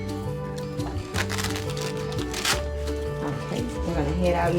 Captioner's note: velcro scratches